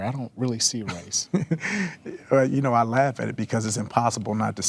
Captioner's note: laughing